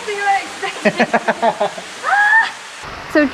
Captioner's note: laughs